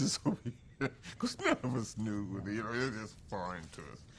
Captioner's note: laughs